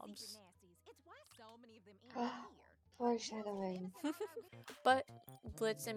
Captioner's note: gasp